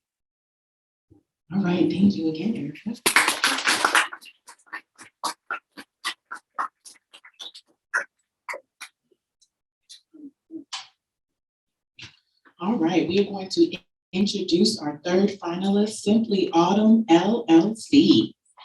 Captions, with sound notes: - All right, thank you again for you interest. (audience applauding) All right, we are going to introduce our third finalist, Simply Autumn LLC.